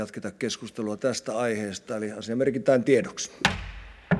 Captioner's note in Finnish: kopauttaa nuijaa